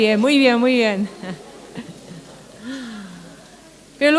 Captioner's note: laughter